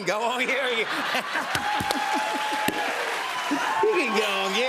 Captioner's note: laughter, cheers, applause